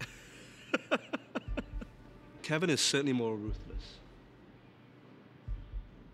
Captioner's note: laugh